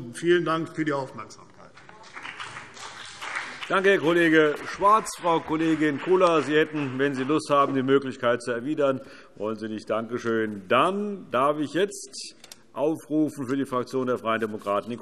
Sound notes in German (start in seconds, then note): 1.7 Beifall CDU und BÜNDNIS 90/DIE GRÜNEN